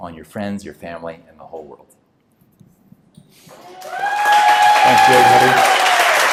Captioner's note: cheering and applause